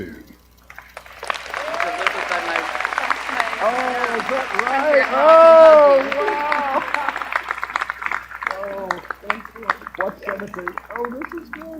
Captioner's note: applause